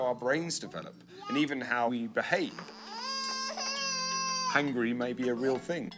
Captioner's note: baby crying